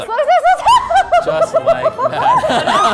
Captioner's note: laughing